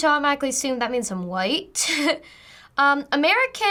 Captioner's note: chuckles